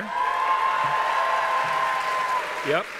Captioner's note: cheers and applause